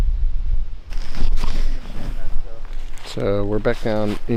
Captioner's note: leaves crunching